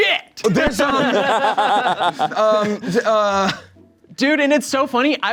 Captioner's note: everyone laughing